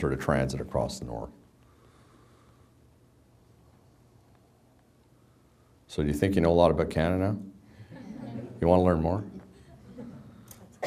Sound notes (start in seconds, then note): 7.7 background laughter